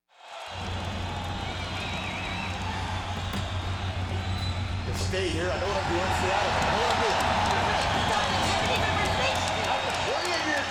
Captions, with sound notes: (audience cheering) Just stay here, I know what I'm doing. Stay out of it, I know what I'm doing. Stop, Ric.